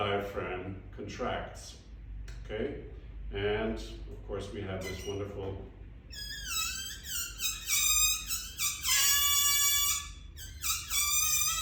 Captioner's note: air escaping balloon